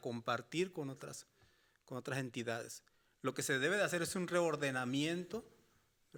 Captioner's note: speaking Spanish continues